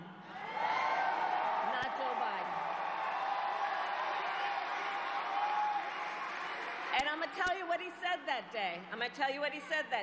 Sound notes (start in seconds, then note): 8.1 applause